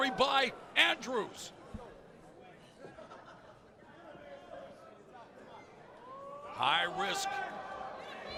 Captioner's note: crowd chatter